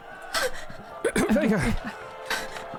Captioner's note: grunting